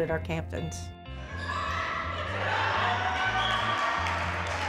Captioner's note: players shouting